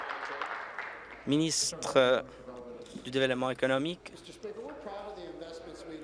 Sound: applause

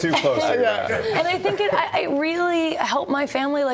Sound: laughter

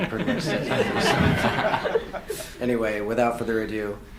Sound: audience laughs

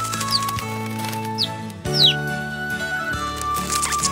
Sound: flute music; chirping; flute music

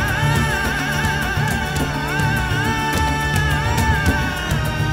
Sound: quavering voice continues

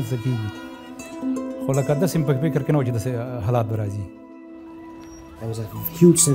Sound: speaking in pashto

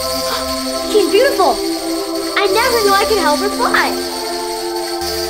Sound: gasp; choral music continues

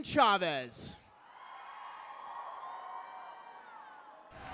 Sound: cheering

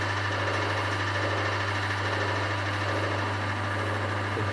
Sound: slight change in pump noise

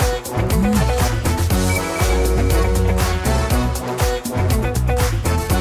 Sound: device beeps; device vibrates

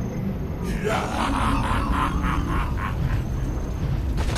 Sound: laughs

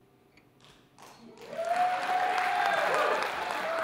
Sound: cheers, applause

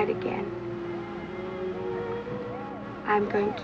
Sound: siren blaring

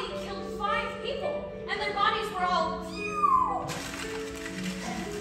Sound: mashing sounds

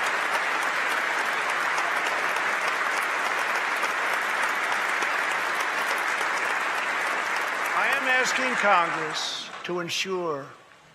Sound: applause

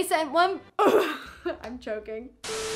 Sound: clears throat

